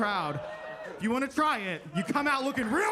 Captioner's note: attendees cheering